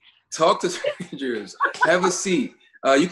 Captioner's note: laughing